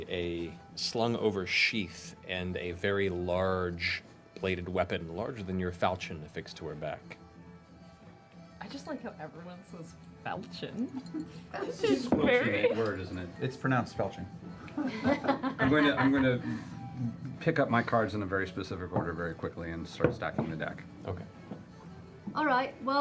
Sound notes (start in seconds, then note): 14.7 laughter